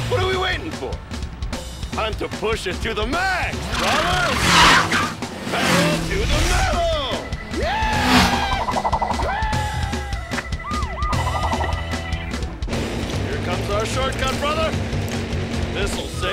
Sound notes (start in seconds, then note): 7.4 screams; 10.5 siren wails